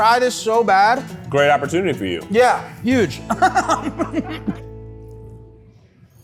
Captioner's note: laughs